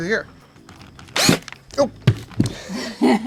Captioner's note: drill drilling; laughing